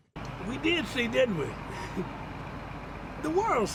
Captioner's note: chuckles